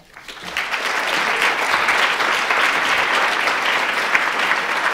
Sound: audience applauds

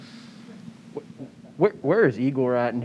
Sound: chuckles

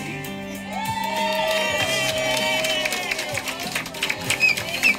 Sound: residents and staff cheer

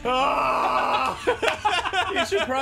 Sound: A scream of relief; laughter

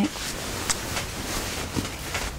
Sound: kiss

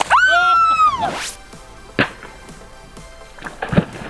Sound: screaming; balloon explodes

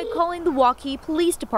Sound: nat pop of phone ringing

